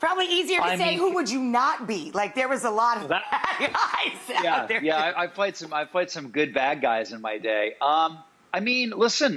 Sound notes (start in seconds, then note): 3.1 laughs